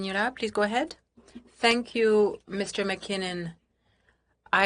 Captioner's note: speaking in French